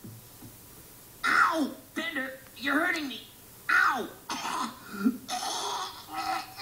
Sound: coughs, hacks

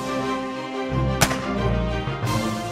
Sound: dramatic music; gun fire; dramatic music

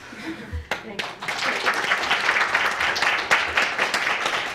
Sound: applause

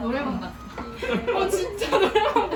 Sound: laughs

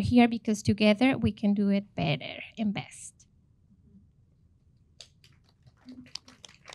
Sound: audience applauding

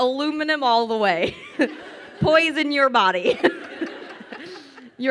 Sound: crowd laughing

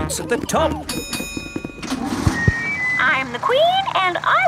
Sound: bell dings

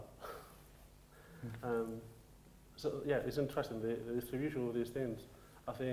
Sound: chuckles

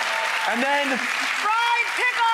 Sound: audience cheers

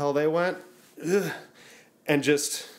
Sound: grunts

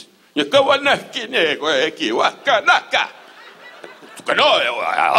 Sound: Don imitating chief

